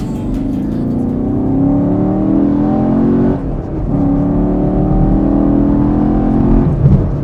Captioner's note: V8 engine revs and burns gas